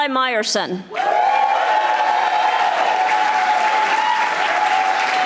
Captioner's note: audience applauding